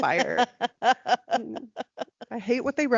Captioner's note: laughing